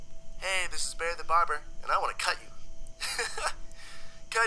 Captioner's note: laughs